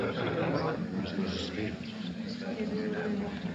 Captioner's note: excitable whispering